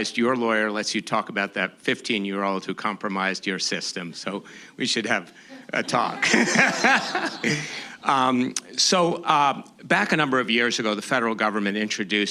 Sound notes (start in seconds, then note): 5.6 laughter